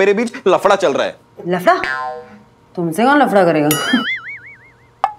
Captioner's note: Scoffs